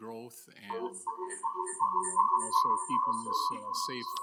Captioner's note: voice echoing